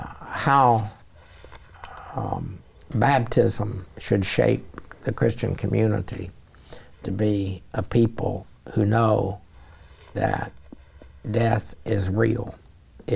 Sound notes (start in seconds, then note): none